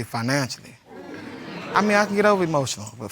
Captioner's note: audience exclaiming